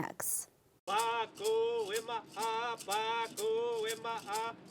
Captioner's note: chanting